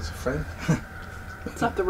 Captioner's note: Jeff chuckles nervously